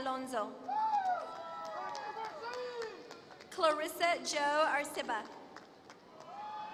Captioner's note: applause